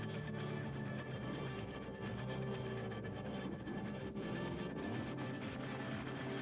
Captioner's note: motorcycle engine roars